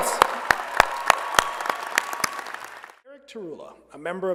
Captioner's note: applause